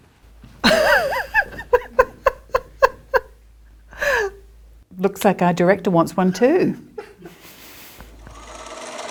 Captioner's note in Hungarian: Nevetés